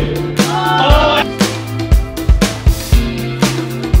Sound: upbeat chill music; crowd cheers

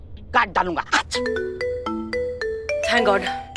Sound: mobile phone chimes

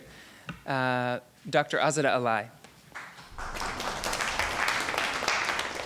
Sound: audience clapping

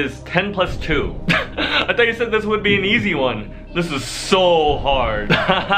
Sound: laughs

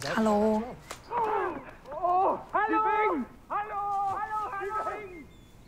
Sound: airmen talk in German

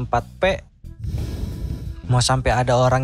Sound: inhale

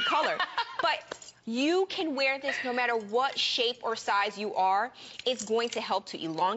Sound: laughter

